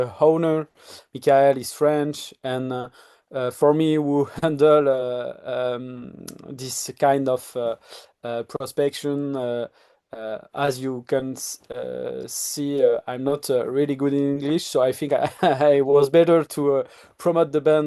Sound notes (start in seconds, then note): 5.8 lip smack; 15.4 laughs